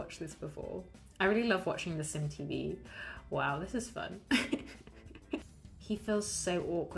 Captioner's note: laughs